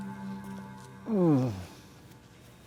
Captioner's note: Carter groans